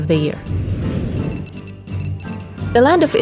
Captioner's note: electronic beeping